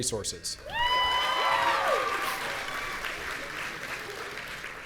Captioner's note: audience cheering